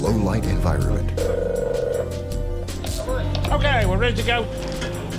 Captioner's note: telephone ringing